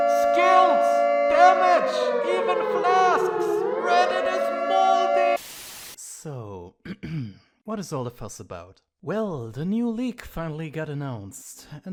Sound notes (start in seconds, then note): 5.4 white noise; 6.8 clears throat